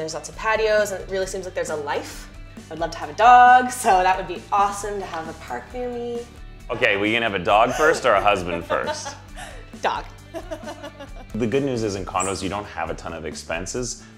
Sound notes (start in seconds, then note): 10.2 laughs